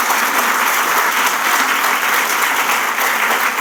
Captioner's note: applause